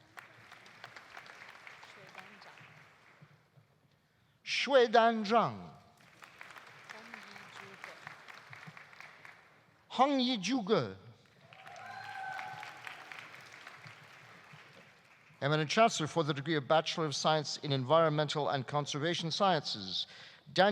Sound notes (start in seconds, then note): 0.0 audience applauding; 6.0 audience applauding; 11.3 audience applauding; 11.4 audience cheering